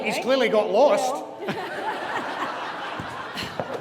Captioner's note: audience laughs